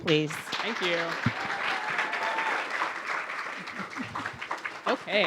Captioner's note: audience clapping